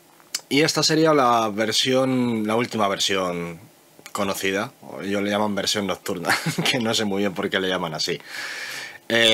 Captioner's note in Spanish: risas